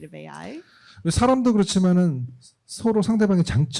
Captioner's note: speaking korean